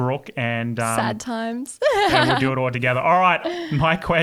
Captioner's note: laughing